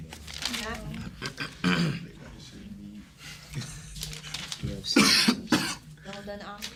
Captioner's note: students murmur